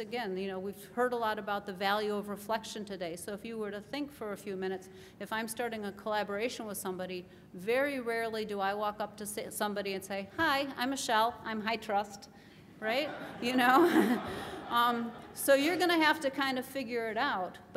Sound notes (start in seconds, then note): 12.9 laughter